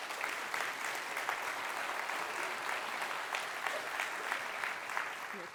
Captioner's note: audience applauds